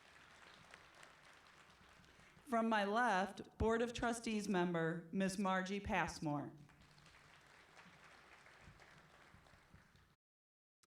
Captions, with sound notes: From my left board of trustees member Miss Margie Passmore. [CLAPPING]